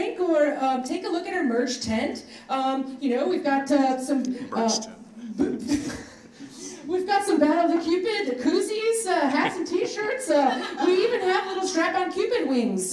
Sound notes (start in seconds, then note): 5.3 audience laughs